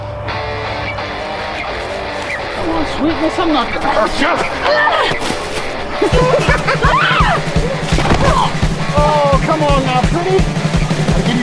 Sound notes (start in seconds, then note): 0.0 rock music; 4.9 Kristen yells; 4.9 Tate laughs